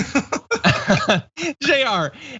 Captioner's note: laugh